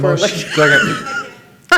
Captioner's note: laughs